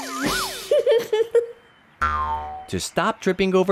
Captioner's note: laughs